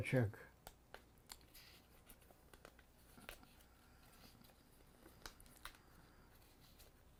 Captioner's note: pauses 12 seconds